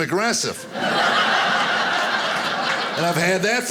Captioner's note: audience laughing